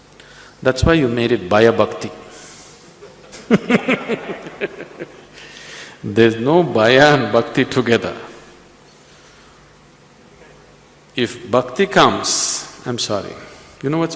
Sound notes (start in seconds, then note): 3.0 laughs